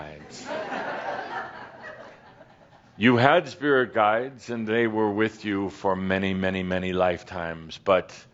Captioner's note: some chuckles